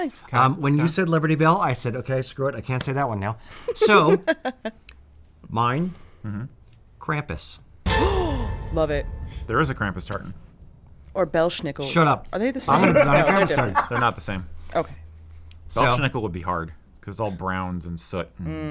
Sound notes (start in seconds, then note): 8.0 gasp